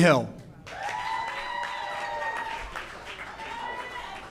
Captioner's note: audience cheers